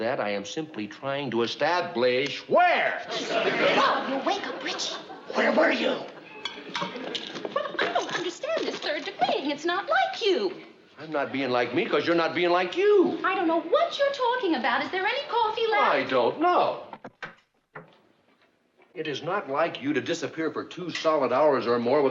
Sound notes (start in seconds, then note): 5.0 whispers